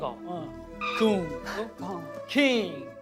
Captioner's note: squeak